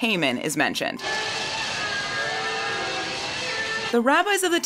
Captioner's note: booing and sound of wooden noismakers